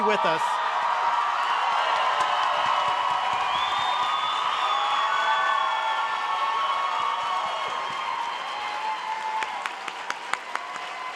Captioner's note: applause